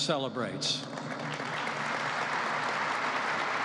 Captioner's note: applause